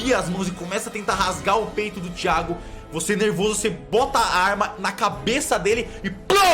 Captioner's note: poow